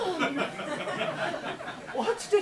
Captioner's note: audience laughs